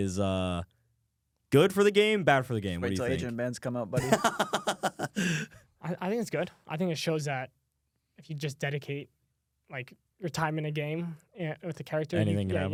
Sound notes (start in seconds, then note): 4.0 laughs